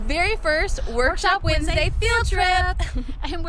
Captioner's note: in Unison